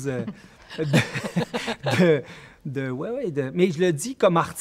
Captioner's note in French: rires